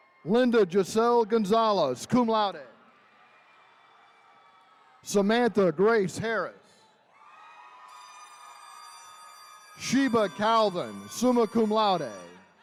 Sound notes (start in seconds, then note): 0.0 attendees cheering; 2.8 attendees cheering; 6.9 horn blaring; 7.1 attendees cheering